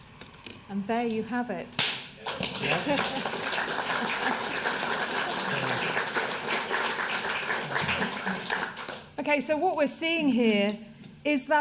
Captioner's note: applause